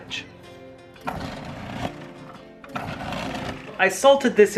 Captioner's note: food processor whirring